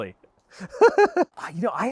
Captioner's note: laughs